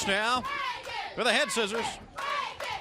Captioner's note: crowd chatter